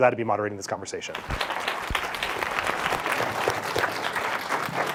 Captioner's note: audience applauds